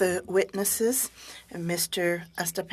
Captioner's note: speaking French